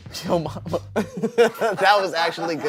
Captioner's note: laughs